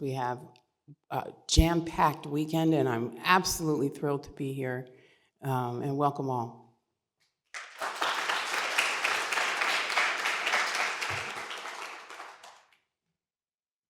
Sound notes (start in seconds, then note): 7.5 applause